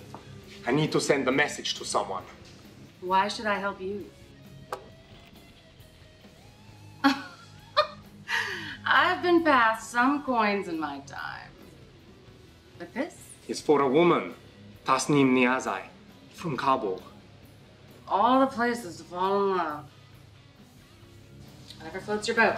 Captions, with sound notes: I need to send a message to someone. Why should I help you? [Chocolate coin scrapes table] [Charon chuckles in amusement] I've been passed some coins in my time. But this? Is for a woman. Tasneem Niazai. From Kabul. Of all the places to fall in love! Whatever floats your boat.